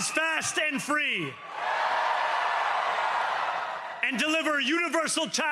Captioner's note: cheering